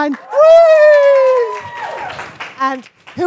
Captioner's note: cheering